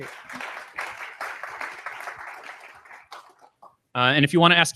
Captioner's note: applause